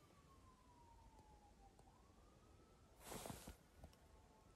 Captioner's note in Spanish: suenan sirenas